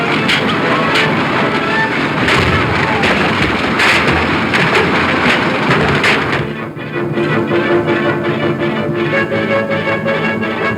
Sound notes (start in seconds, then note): 2.5 wagon crashing; 4.6 dramatic music